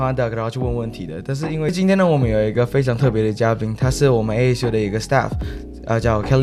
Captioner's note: Mandarin